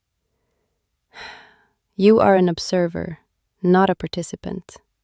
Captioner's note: sighs